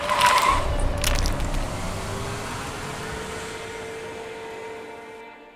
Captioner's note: engine revving